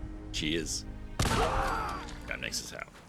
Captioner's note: bang!